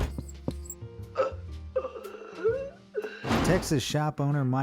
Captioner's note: man wheezing